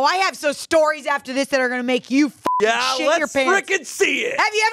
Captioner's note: beep